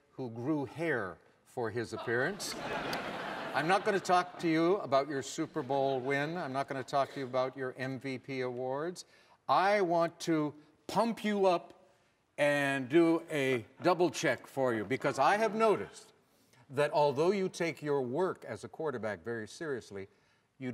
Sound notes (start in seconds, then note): 2.0 audience laughing